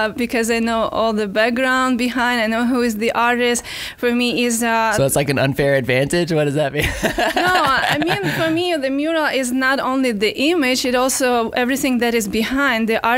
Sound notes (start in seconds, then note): 6.8 laughing